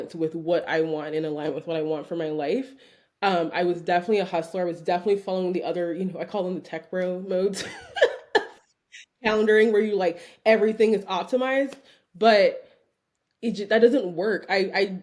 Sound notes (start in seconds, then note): 7.6 chuckling